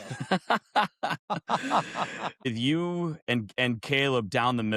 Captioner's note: laughter